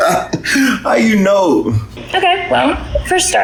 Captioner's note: chuckles